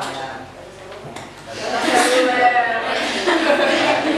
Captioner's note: laugh